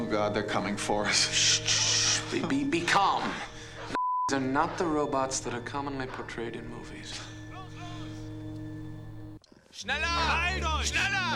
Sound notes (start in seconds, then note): 7.5 speaking german